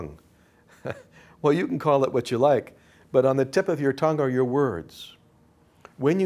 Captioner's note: laughs